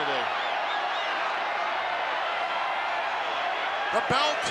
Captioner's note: crowd cheering